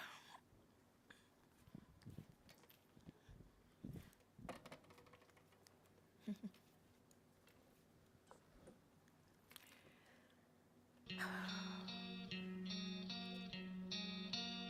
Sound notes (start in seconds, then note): 0.7 sighs; 6.2 chuckles; 11.0 gentle guitar music